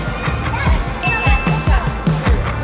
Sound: ding

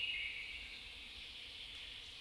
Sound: birds chirping

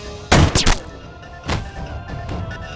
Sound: gunshot

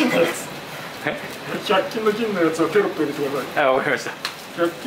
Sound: laughs

